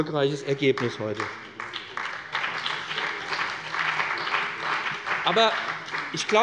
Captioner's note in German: Beifall bei dem BÜNDNIS 90/DIE GRÜNEN und der CDU